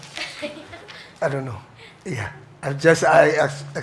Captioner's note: moderator chuckles